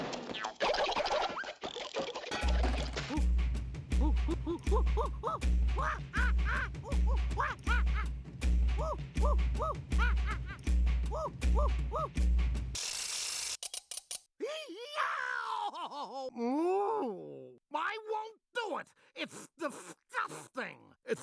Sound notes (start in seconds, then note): 4.0 gibbering; 14.4 crying; 16.2 muffled groaning